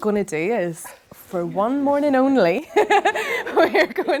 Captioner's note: laughing